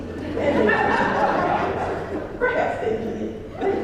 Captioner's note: laugh